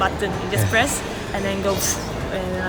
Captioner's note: blows out